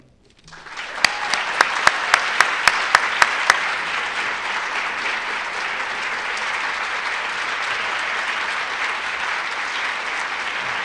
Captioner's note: applause